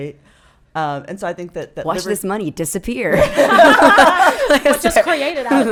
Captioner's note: laughing